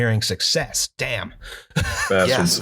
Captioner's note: laughter